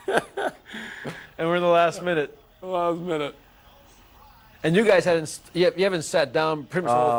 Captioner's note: laughter